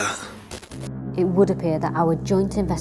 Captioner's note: static